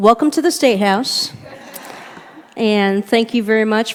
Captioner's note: chuckling